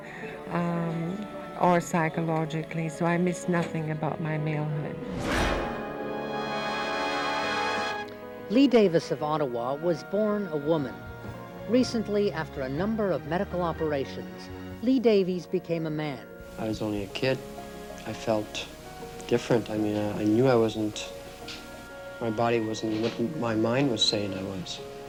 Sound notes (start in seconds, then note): 6.5 whoosh; 7.5 theme music